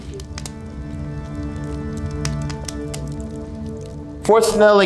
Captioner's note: fire crackling